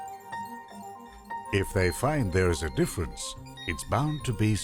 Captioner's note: voiceover